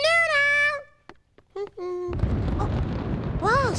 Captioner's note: thunder